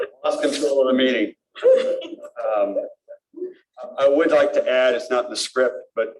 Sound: laughter

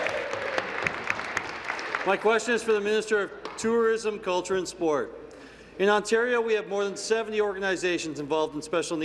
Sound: applause

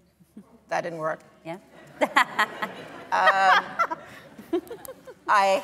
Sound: laughter

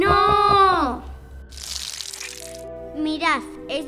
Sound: biting sounds

